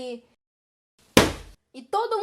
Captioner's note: bam!